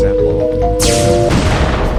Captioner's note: zap ball fires